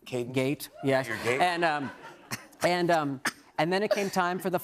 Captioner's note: laughter